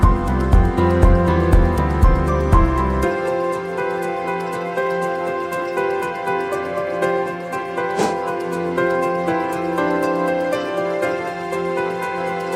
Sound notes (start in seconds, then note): 3.6 upbeat music continues; 7.9 air whooshing